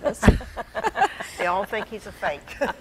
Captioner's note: laughing